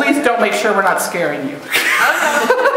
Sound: chuckles

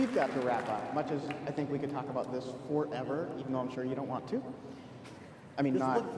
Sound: applause

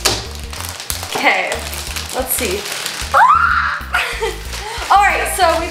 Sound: squeals

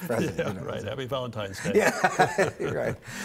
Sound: laughing

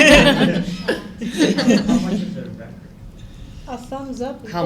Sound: laughter

